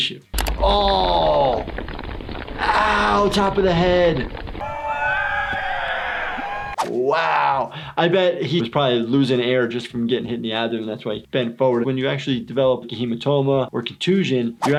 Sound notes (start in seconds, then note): 4.6 cheering